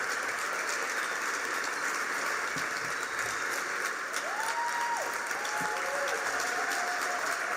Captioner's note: applause